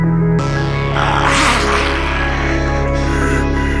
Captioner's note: Gaunt Man growls; slow electronic music